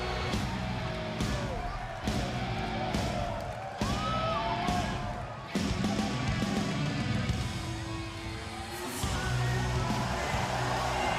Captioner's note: crowd cheering